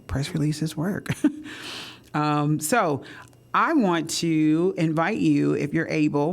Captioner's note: laughter